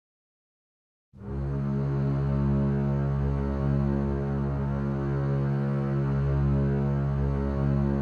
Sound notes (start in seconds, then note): 1.2 horn fades in